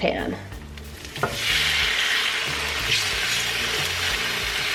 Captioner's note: food sizzling